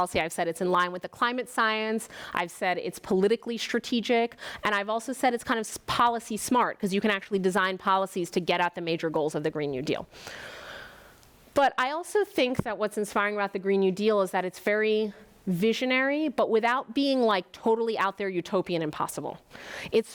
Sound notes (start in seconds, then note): none